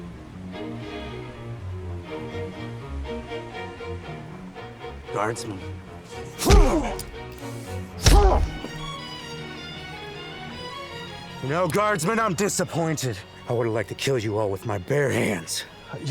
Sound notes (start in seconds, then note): 6.3 fists thudding; 6.4 Chris groaning